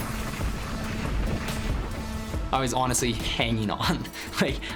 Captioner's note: chuckling